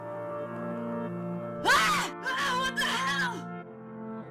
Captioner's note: Toby Screams